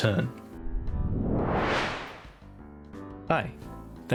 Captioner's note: woosh